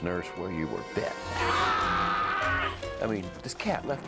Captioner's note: yelling